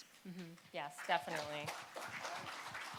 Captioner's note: applause